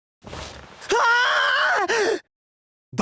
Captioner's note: panicked scream